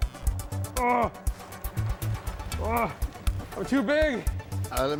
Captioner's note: grunting